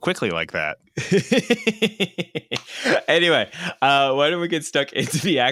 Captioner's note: laughs